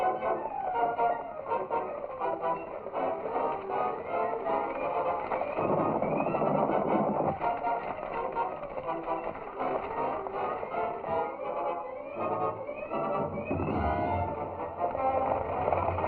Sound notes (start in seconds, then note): 0.1 tense music; 8.7 stagecoach rattling